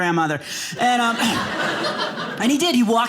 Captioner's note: audience laughing